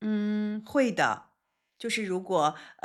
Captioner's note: silence